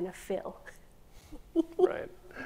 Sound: chuckles

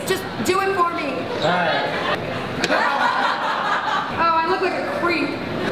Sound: laughter

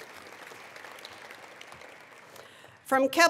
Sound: attendees applauding

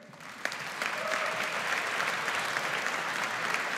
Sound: audience applauds

